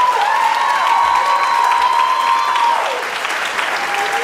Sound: audience applauding

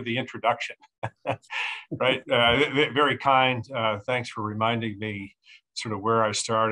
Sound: chuckling

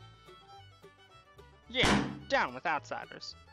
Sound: smash

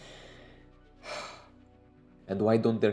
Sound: breathes

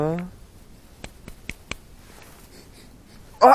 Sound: patting

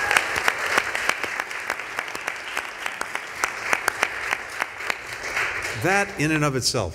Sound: applause

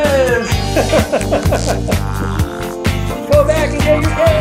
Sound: laughing

